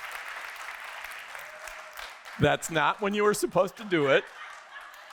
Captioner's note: applause